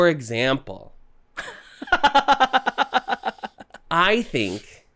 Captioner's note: cackling